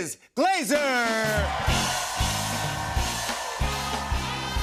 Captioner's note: cheers and applause